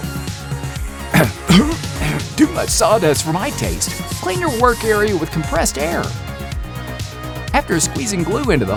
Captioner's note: coughing